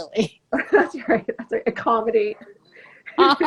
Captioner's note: laughing